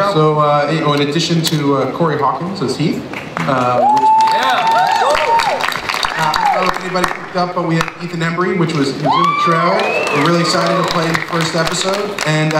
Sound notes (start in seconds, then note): 3.5 audience applauds and cheers